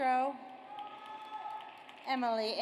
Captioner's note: audience cheers